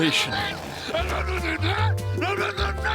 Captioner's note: grumbling